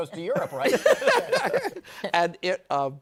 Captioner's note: laughter